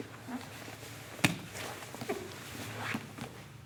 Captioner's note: soft shuffling